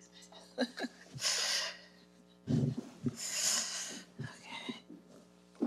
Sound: laughs

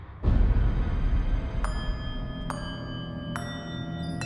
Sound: bells chime

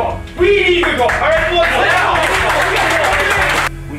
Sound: applause

